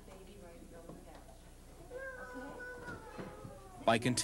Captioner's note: girls talking